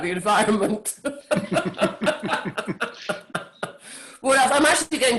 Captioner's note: all laughing